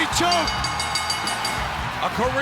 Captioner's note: bell ringing